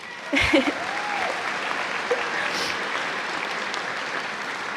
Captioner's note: cheers and applause